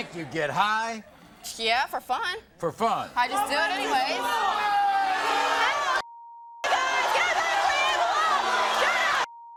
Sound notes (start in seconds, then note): 4.7 audience shouts; 9.3 beep